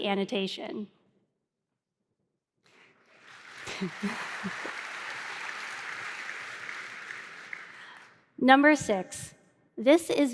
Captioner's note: applause